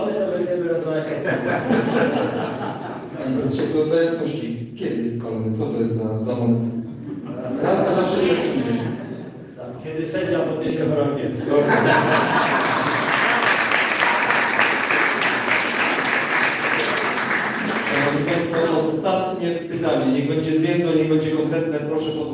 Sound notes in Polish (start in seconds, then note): 1.0 Śmiech z sali; 15.0 Śmiech z sali, brawa